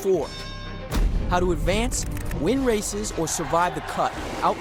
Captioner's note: boxing ring bell